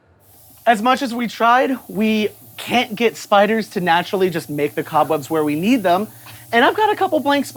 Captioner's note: compressed air hissing